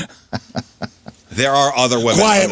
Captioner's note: laughter